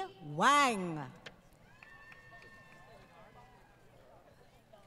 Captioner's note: crowd Cheering